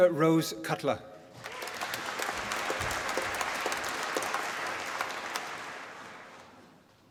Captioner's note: applause